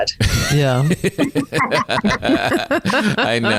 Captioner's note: all laughing